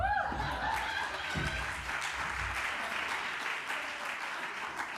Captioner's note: applause